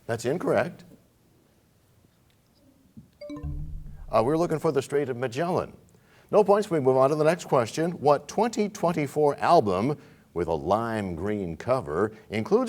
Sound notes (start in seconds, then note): 3.2 bell chimes, time expires